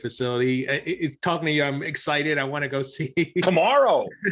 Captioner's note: chuckling